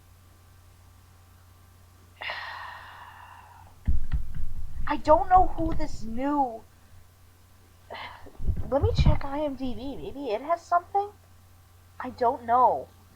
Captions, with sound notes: (long, drawn-out sigh) I don't know who this new... (sighs) Let me check IMDB; maybe it has something? I don't know.